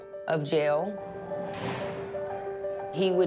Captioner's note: door clanks